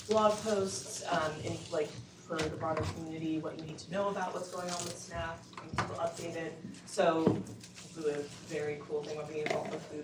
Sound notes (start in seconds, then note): none